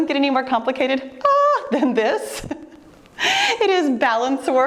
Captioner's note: laughing